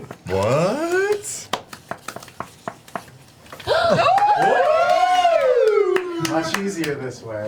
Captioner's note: all cheer